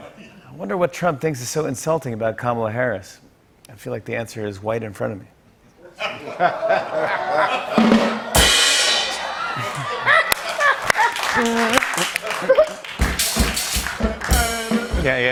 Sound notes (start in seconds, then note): 5.8 laughter; 7.4 rim shot; 9.3 laughter